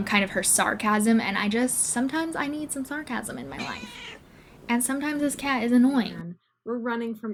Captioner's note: cat meowing